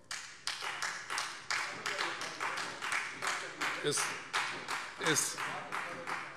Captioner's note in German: Beifall Freie Demokraten